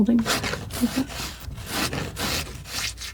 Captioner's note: scratching